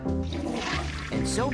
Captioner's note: flush